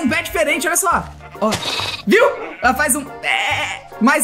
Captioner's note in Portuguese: ovelha faz um bé mais agudo